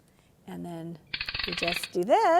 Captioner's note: crank noise!